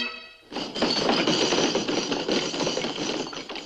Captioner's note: pounding table